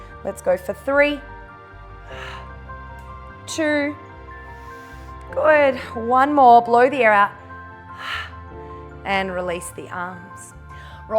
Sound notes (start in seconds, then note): 4.5 inhales; 7.6 exhales